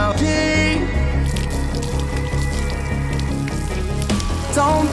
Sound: pissing sounds

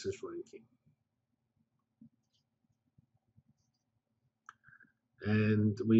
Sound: pause

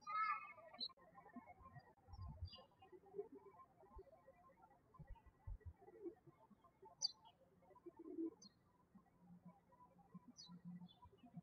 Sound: birds chirping

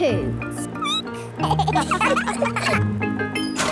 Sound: squeaking; laughter

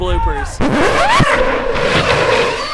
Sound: record scratch

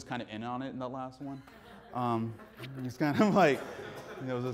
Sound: audience laughing

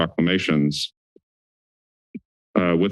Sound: silence

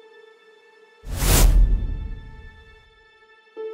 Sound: whooshes

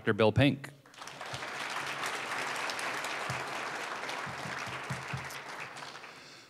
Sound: applause

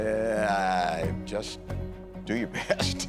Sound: chuckling

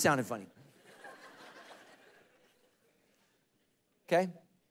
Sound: congregation laughing

